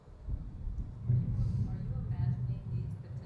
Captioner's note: voiceover